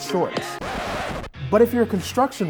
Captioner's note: record scratches